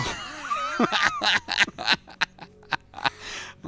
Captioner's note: laughter